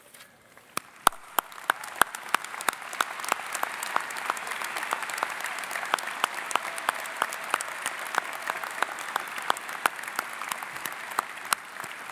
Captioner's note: applause